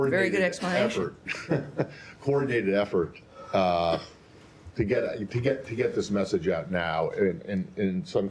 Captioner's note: laughter